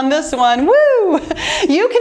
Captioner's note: cheers